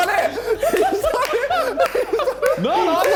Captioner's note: men laughing